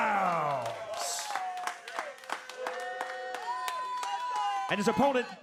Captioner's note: applause